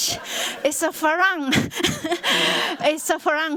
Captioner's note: laughter